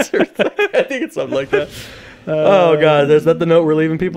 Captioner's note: laughing